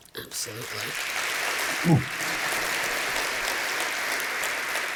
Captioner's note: applause